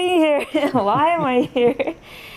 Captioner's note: laughs